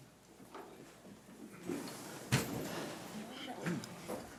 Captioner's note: chairs rustling